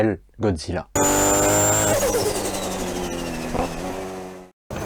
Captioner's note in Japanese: スカイラインr32 gtrのサウンド